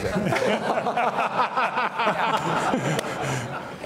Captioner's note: all laugh